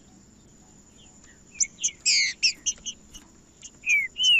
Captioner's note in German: trinca ferro cantando